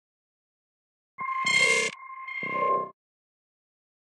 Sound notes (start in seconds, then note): 1.2 sound of bleep alarm